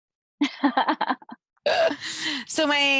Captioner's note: chuckling